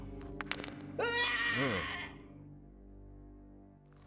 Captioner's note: crack; scream